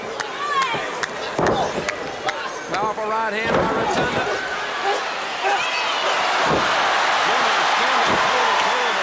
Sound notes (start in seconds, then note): 0.9 claps; 3.8 audience cheers